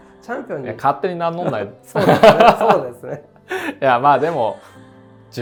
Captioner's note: laugh